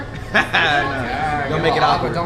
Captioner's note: laughs